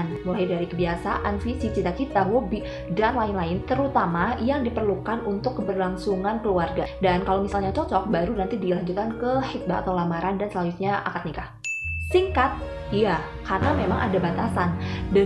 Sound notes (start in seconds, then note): 11.6 ding